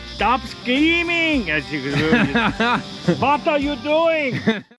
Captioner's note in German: deutscher Akzent